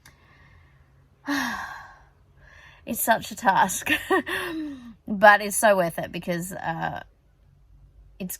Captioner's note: heavy sigh; scoffs